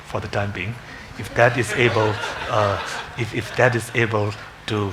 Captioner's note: congregation laughing